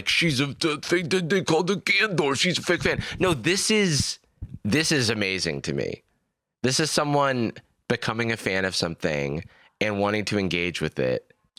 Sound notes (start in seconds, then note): none